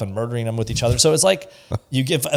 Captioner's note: laughs